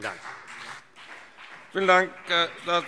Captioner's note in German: Beifall CDU und BÜNDNIS 90/DIE GRÜNEN